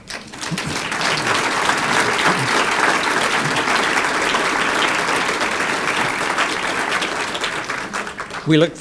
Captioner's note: applause